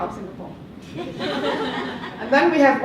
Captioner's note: laughter